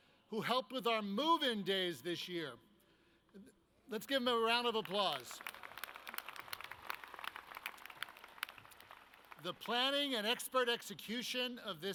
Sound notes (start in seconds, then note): 4.7 audience claps